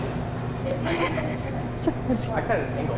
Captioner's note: student laughs